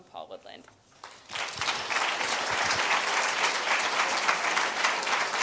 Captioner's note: applause